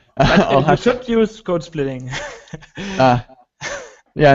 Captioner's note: laughs